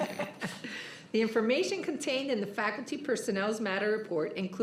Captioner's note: laughter